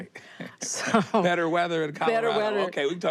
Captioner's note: chuckles